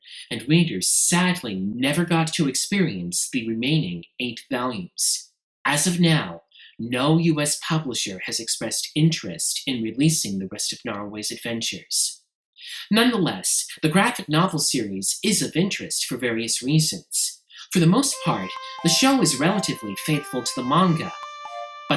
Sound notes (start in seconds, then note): none